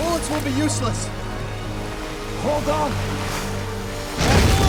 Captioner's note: roaring